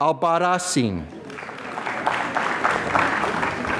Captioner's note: applause